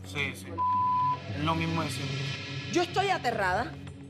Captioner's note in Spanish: bip